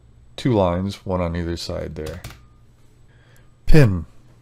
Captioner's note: keyboard clacking